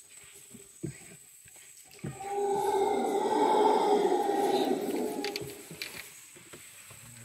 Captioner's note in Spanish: aullido